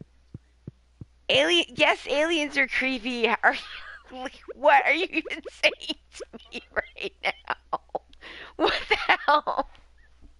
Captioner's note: laughing